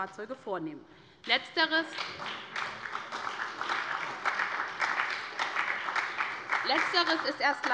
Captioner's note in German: Beifall bei der SPD